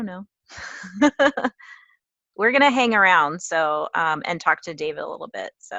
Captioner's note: laugh